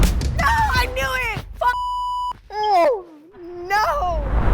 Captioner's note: beep